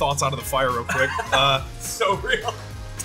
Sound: laughs

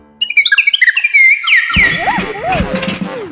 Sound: screaming chirps

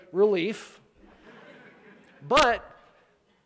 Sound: chuckling

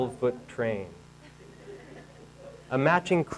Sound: audience laughing

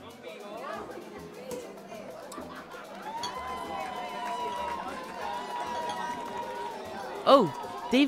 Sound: sound of clinking glasses, chatter, music in the background

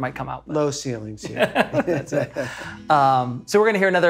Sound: both laughing; guitar chord strumming

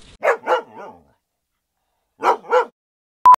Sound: dog barking

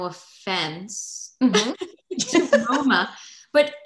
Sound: laughter

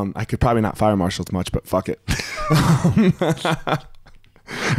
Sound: laughing

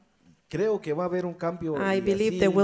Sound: speaks in foreign language

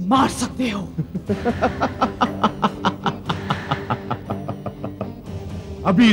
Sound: evil Laugh

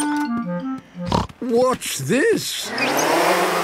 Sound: snorting

